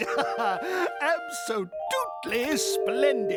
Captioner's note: horn honking